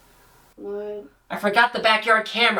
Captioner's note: mumbles